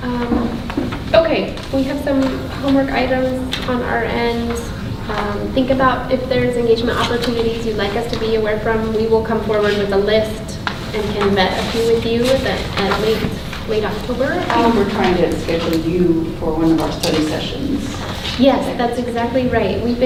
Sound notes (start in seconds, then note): 10.6 rustling drowns out speaker